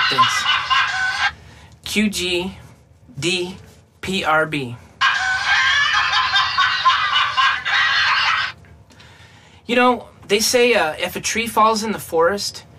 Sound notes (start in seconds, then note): 0.0 laughter; 5.4 laughter